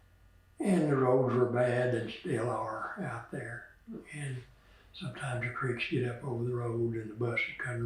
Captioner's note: laughs